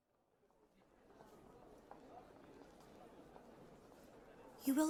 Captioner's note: distant chatter of a crowd